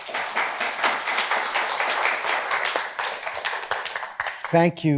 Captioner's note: applause